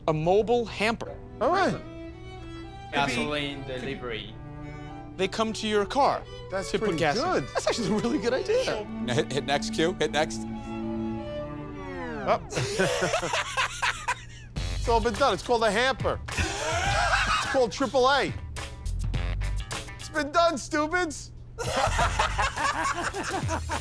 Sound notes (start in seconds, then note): 14.1 laughs; 21.6 both laugh